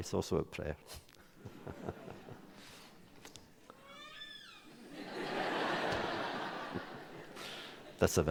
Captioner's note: laughter